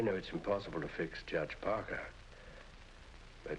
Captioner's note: none